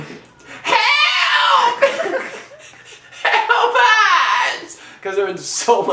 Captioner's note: screaming; laughing off-camera